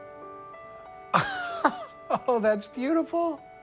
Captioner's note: laughs